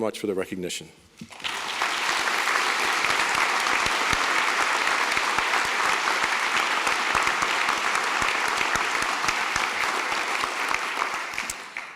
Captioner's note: applause